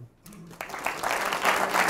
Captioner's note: applause